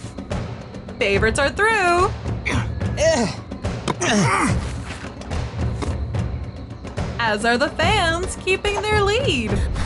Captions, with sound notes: Favorites are through! [grunting] As are the Fans, keeping their lead!